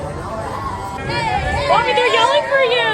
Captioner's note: people yelling